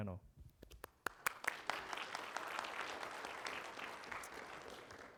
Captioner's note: audience applauding